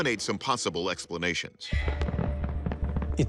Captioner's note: fireworks crackling